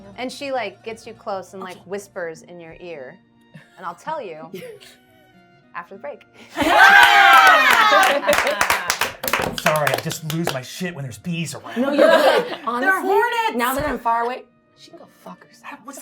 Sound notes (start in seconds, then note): 6.5 everyone cheering and applauding